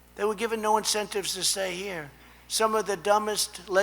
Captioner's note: none